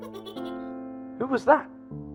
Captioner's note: girl laughs